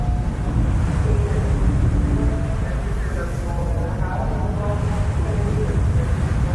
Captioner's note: waves crashing